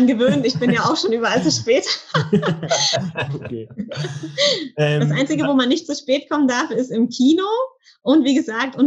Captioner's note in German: lacht